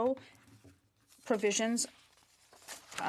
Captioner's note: speaking in French